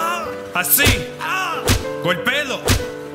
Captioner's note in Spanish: gritos de rudy lejos; sonido de golpe